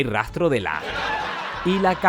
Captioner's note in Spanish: risas enlatadas